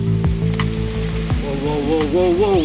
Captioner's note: car engine rumbling